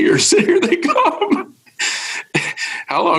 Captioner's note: chuckles